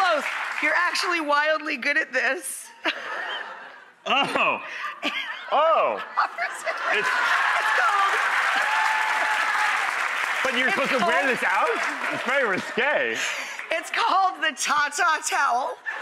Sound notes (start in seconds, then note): 6.7 audience applauding